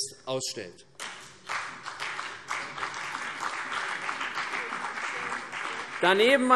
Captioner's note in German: Beifall CDU und BÜNDNIS 90/DIE GRÜNEN